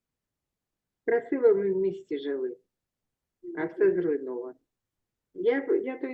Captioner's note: speaking in foreign language